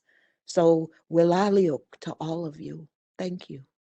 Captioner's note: speaking in native language